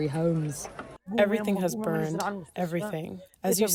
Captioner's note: through translator